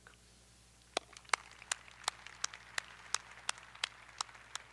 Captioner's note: audience applauding